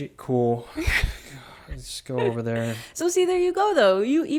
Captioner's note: laughing